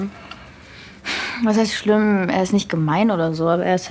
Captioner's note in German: Seufzen